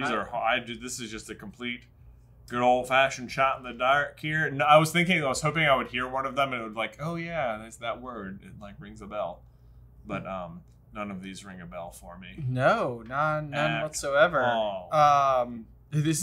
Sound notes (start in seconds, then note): none